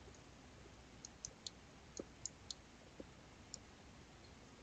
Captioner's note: mouse clicking